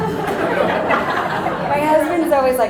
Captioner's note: audience laughter